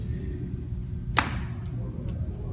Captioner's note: slap